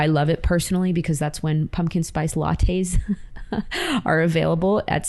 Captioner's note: chuckles